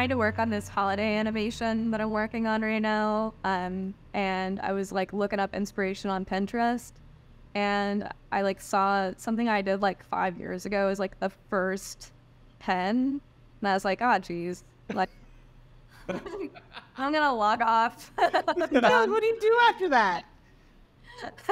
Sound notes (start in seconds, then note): 16.0 laughter